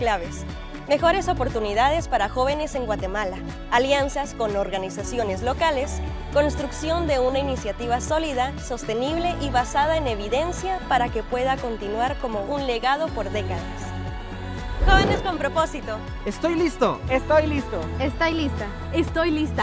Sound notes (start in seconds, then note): 3.7 speaking in Spanish; 3.7 upbeat music